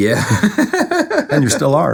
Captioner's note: laughing